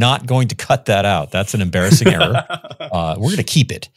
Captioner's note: laughs